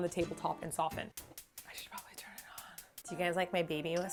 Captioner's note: whisper